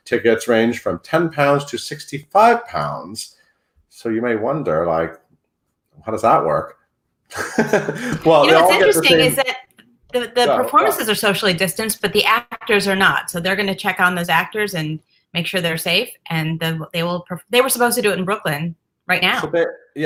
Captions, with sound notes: Tickets range from 10 pounds to 65 pounds. So you may wonder, like how does that work? (laughs) - You know what's interesting is that the performances are socially distanced, but the actors are not, so they're gonna check on those actors and make sure they're safe. They were supposed to do it in Brooklyn, right now.